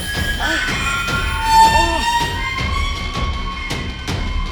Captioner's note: Danny groans